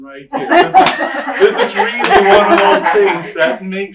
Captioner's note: laughter and clapping